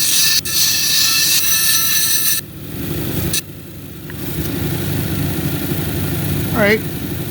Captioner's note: grinding rock